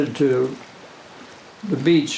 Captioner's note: gently waves swishing